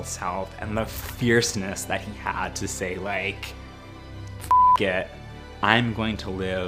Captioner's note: beep